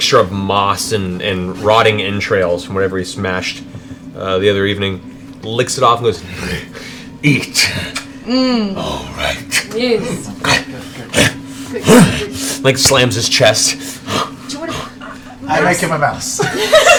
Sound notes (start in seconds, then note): 9.9 grunts